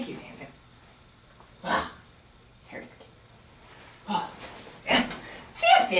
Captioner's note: grunts and performs vocal warmups